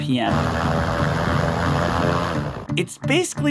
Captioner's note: propellers humming